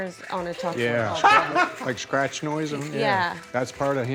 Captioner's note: laughs